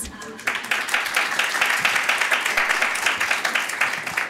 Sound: applause

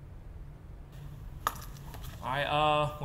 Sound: pen slams

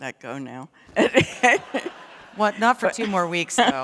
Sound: laughter

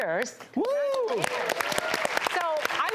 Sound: audience applause

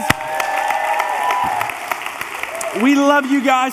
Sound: congregation cheering and applauding

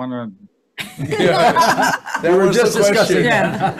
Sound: all laughing

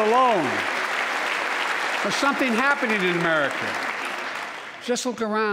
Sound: applause

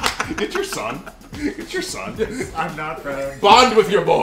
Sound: laugh

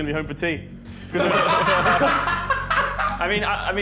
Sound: boys laugh

